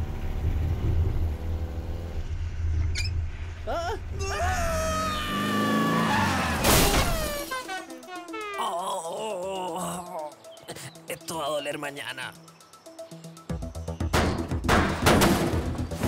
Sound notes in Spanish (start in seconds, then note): 3.7 Hombres gritan; 8.5 Hombre se queja; 14.1 John golpea la puerta